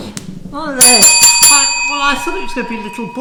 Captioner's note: rings bell